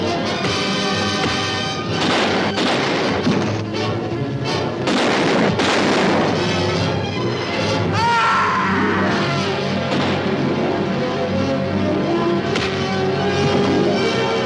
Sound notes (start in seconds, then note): 0.2 pounding sound; 1.9 gunshots; 3.1 thump; 4.8 gunshots; 6.3 suspenseful music; 7.9 police officer screams; 9.8 gunshot; 10.8 suspenseful music; 12.5 whack; 13.5 dramatic music